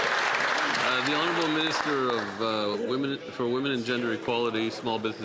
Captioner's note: applause